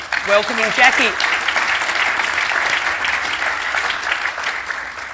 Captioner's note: audience applauding